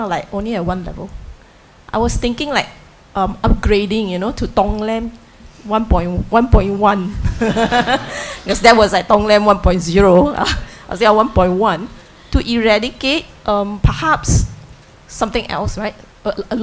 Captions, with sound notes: only a one level. I was thinking like upgrading, you know? To Tong-len 1.1. (audience laughs) Because that was at Tong-len 1.0. Was there a 1.1 to eradicate perhaps something else, right,